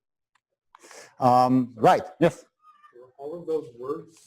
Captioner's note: pause